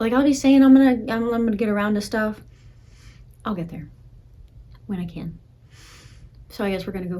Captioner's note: breathes